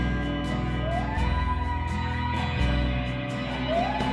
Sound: coyotes howl

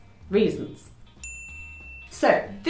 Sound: dinging

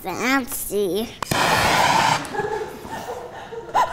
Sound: torch whirring; laughing

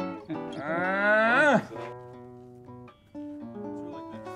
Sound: grunting

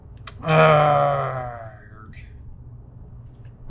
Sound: groans

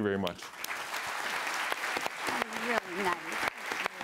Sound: applause

